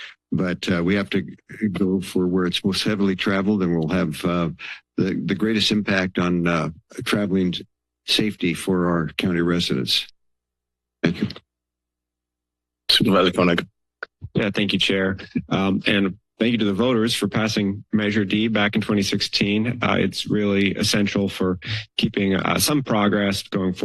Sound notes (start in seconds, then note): 9.8 silence